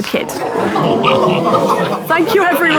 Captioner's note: people in room make shocked noises